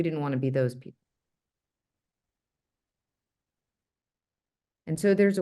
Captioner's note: no audible dialogue